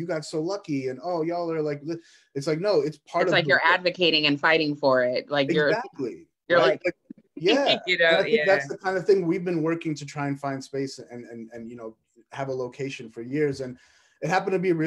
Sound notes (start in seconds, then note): 7.4 laughs